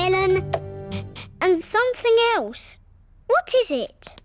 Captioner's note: sniffs